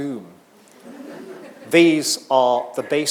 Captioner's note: audience laughing